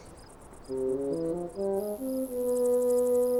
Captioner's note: dramatic music; digging